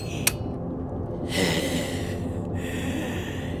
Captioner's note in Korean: 스위치 소리; 거친 숨소리